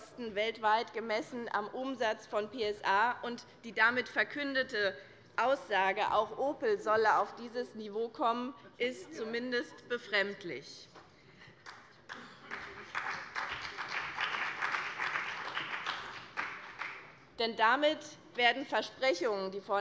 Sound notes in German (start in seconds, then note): 11.6 Beifall bei dem BÜNDNIS 90/DIE GRÜNEN sowie bei Abgeordneten der CDU und der SPD